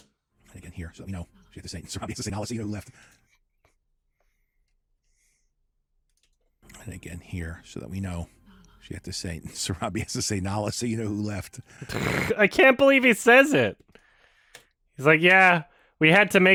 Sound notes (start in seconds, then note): 8.4 chuckles; 11.8 difficult to describe, phlegm-y thoat noise